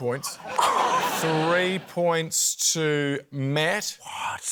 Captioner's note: scoffs